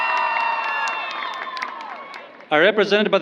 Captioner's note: applause